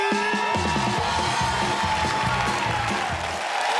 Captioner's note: cheers and applause